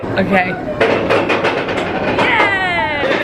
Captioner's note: cart rumbling